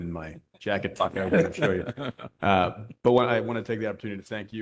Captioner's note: laughter